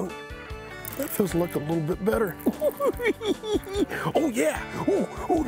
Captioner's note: laughing